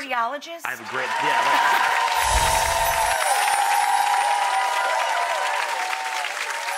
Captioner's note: audience applauds